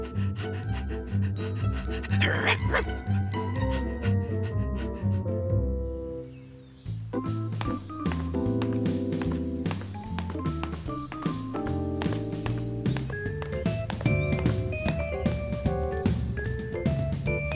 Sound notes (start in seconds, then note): 0.0 panting; 2.0 barks; 6.8 light jazzy music